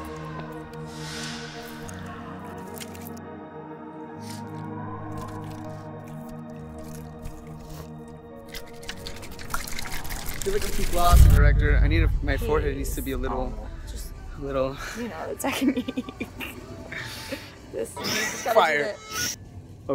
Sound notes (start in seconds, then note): 8.4 can contents rattle and splash; 18.2 laughs